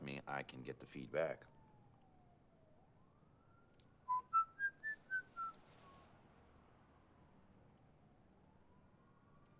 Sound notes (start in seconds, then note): 4.0 whistling